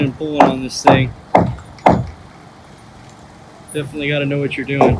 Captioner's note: wood thudding